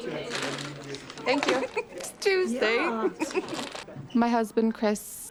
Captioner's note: laughs